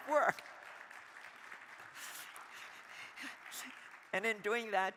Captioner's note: crowd applauding